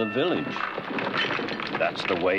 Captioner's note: clattering